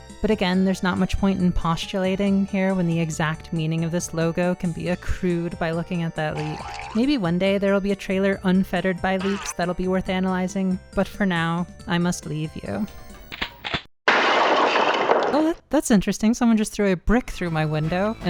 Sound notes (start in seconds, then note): 6.3 cartoon bounce x2; 6.3 water running; 9.1 cartoon bounce; 9.2 water running; 12.8 remote click; 13.2 shotgun cocking; 14.1 glass shattering